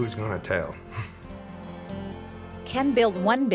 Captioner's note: laughing